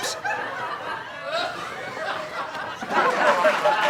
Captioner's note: audience laughs